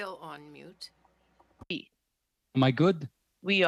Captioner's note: speaking French